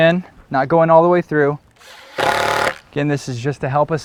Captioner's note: clicking of impact driver, no additional audio